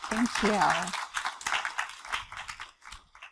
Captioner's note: applause